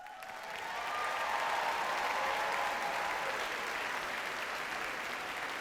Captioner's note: audience cheers and applauds